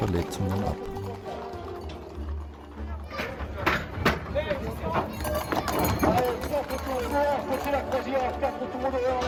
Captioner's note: door opens; loudspeaker announcement